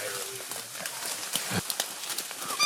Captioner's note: foliage rustles